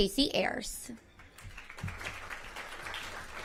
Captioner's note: applause